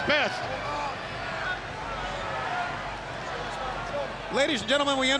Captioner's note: crowd cheering